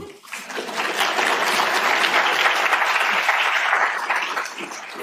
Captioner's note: applause